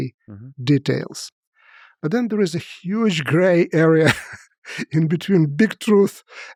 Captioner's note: laughs